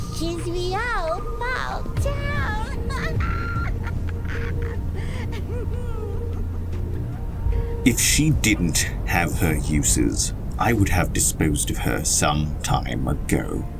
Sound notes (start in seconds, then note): 5.0 evil giggles